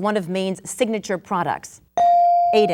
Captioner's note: bell dinging